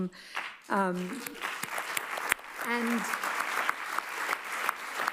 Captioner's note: audience applauds